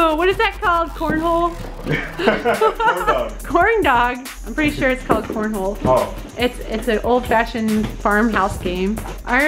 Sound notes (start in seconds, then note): 1.8 laughs